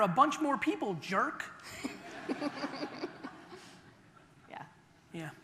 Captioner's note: audeince laughter